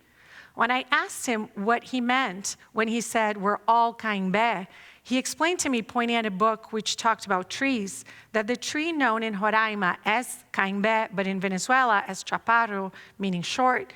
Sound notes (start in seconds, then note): 3.8 non-english speech; 9.8 non-english speech